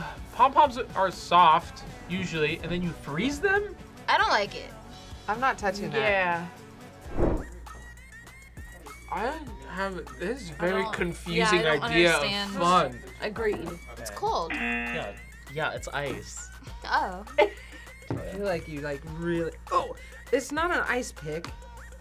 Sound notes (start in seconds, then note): 0.0 upbeat music; 14.4 buzzer rings; 17.3 laughs